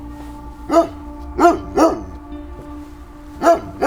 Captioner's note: dog barking